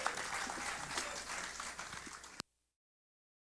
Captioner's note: applause